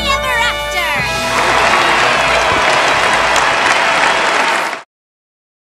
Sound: thunderous applause

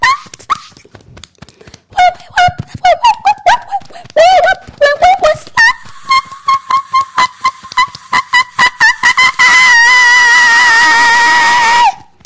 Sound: beating Chest

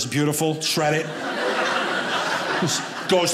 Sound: audience laughing

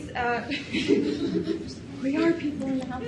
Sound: audience laughs

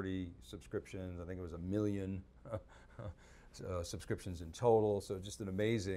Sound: chuckles

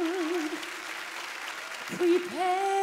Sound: applause

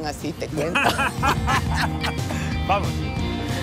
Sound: laughing

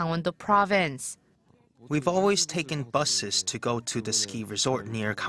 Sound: Korean

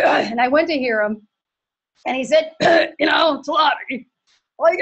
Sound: clearing throat

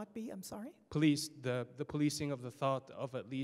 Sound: voiceover

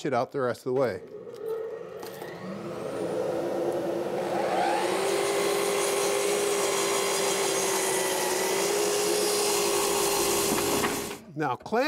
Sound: miter saw whirs

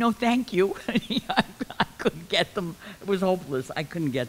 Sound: laughs

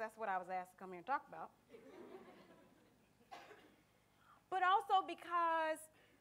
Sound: audience laughter

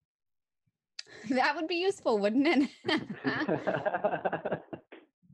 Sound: laughs

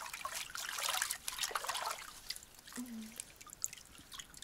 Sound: water splashes

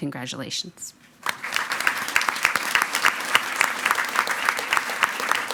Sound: everyone applauding

